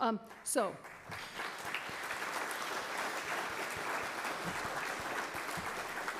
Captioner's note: applause